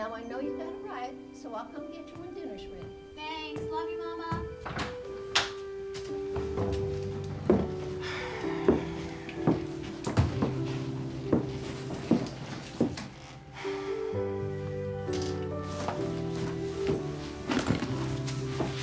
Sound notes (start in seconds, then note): 4.5 door opening; 7.8 sighs; 13.5 sighs